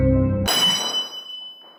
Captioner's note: metal jingling